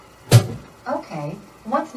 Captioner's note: brake thumps